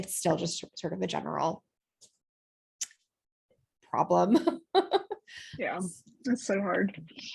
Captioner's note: laughter